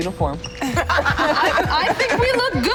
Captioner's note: laughter